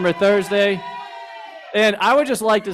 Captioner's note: crowd shouts